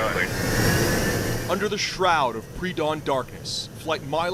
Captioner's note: voice-over